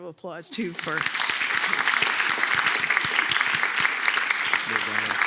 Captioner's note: applause